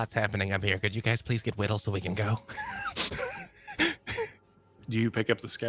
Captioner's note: laughs